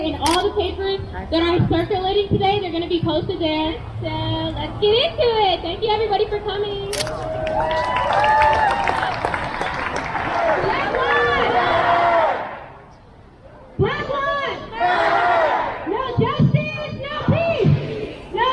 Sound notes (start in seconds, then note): 7.1 crowd cheers; 11.6 crowd; 14.8 crowd